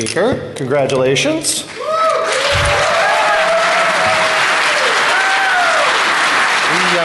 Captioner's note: applause